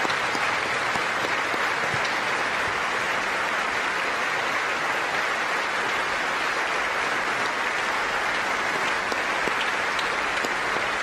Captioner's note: applause